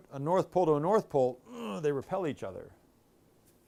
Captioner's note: grunting